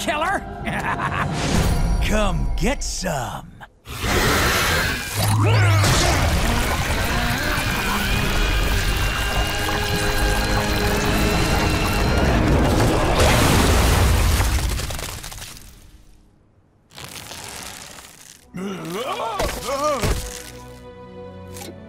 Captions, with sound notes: [laughing] Come get some. [screeching] [groaning]